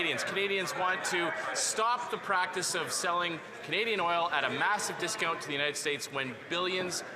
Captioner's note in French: voix de l'interprète